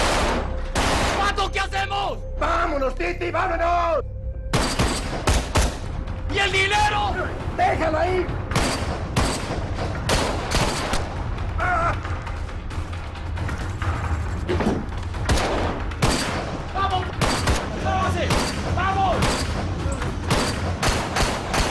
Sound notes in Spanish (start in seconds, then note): 0.0 Disparos; 6.2 Disparos; 11.5 Disparos; 12.9 Grito; 15.2 Disparos; 20.2 Disparos